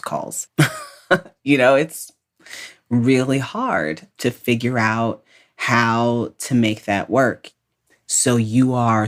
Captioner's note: laughs